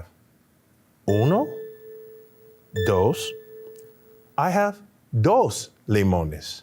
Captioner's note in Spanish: habla español